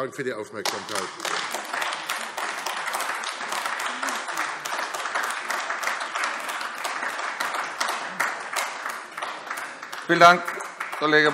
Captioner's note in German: Beifall AfD